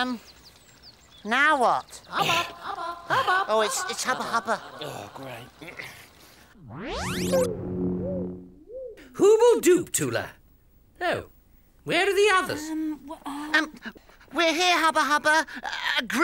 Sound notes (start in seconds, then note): 2.5 echoing; 6.5 space sounds